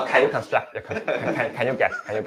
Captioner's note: laughter